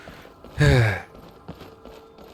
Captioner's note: sigh